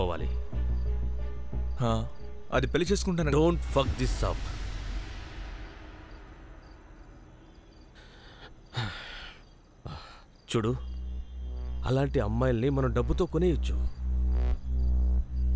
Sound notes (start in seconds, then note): 7.9 sighs